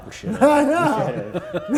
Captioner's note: laughing